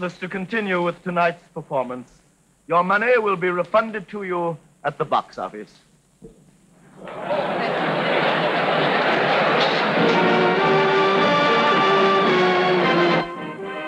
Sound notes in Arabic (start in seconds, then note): 6.8 الناس يتحدثون بصوت خافت; 9.3 موسيقى أوركسترالية مشرقة